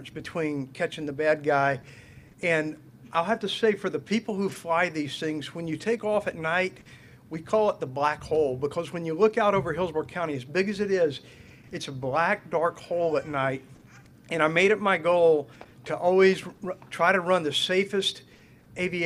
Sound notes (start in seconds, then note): none